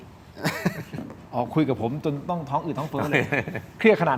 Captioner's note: laughs